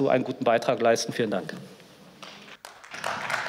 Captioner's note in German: Beifall